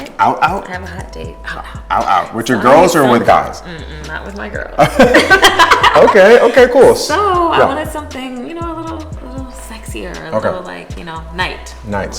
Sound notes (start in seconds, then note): 4.8 laughs